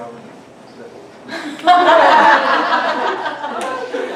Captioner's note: laughter